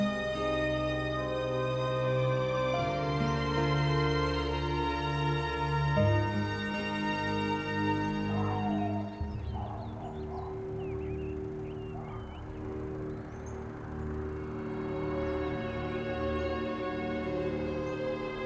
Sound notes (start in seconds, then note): 8.2 dog barking; 11.8 birds chirping; 15.3 melancholy music